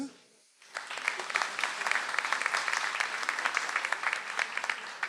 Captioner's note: audience applauds